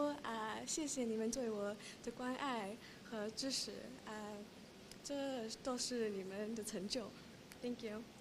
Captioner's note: speaking chinese